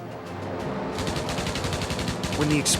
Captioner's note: guns firing